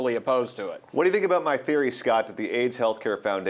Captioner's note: voiceover